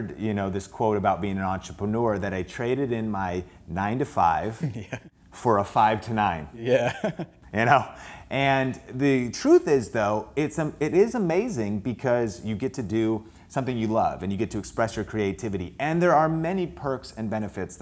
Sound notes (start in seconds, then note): 4.5 laughing; 6.7 laughing; 7.8 chuckle